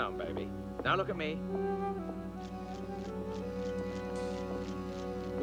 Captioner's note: shutter clicking